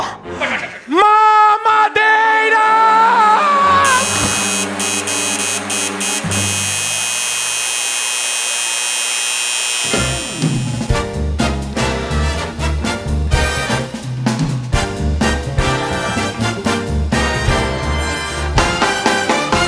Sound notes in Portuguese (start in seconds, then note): 3.8 campainha e aplausos